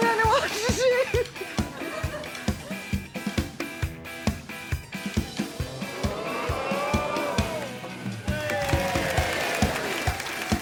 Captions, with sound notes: I don't know what to do. [audience gasping] [cheering and applause]